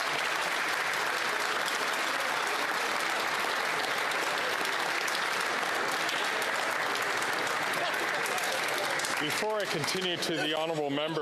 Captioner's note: applause